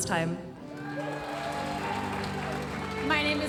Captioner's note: audience applauding